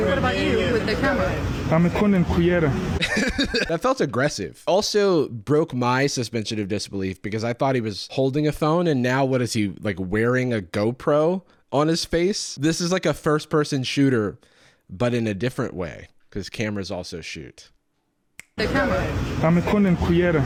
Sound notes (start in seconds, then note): 3.0 laughs; 18.4 snaps fingers